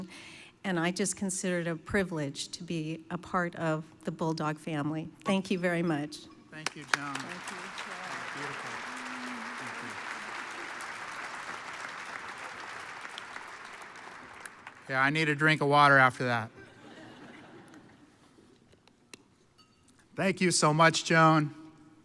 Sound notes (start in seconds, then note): 10.4 audience applauds; 16.6 audience laughs